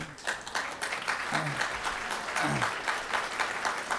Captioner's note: audience applauds